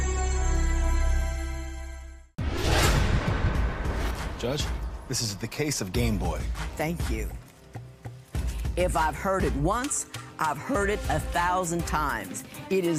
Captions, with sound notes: ■ (whooshing) (upbeat music) - Judge, this is the case of Game Boy. - Thank you.